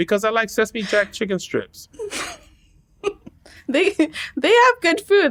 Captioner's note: laughter